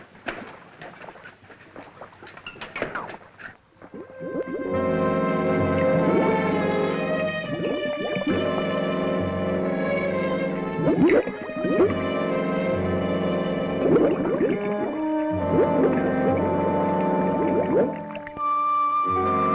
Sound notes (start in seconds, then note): 4.1 suspenseful orchestral music; 6.5 bubbles gurgling